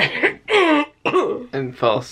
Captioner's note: clears throat